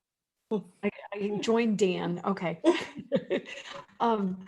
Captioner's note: laughs